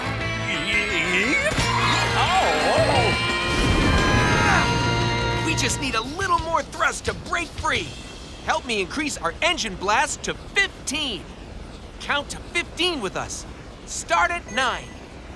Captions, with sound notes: Yee... haw. [grunting] We just need a little more thrust to break free. Help me increase our engine blast to 15. Count to 15 with us. Start at nine.